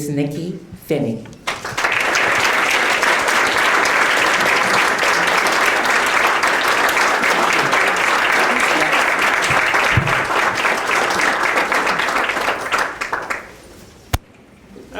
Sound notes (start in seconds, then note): 1.4 applause